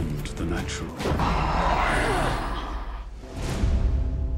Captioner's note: moans